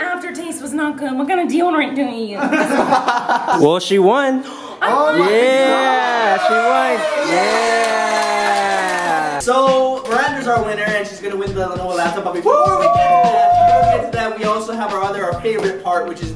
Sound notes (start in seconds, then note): 2.3 laughter; 4.9 cheering